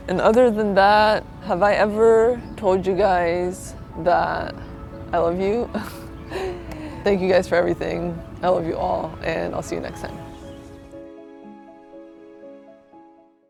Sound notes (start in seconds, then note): 5.7 laughs; 11.2 gentle music